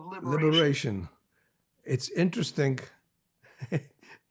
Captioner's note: laughing